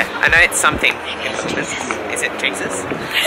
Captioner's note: whispers